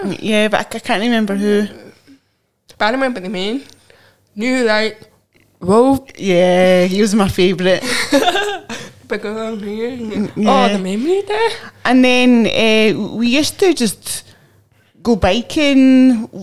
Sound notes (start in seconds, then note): 7.8 laughs